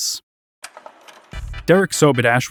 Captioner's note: tape rolling